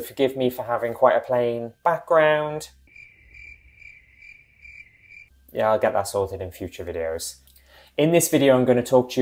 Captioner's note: crickets